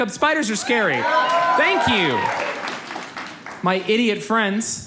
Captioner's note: audience cheers